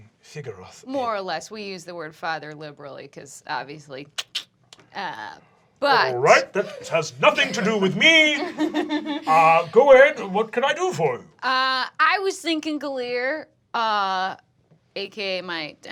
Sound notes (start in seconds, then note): 3.3 makes clicking sound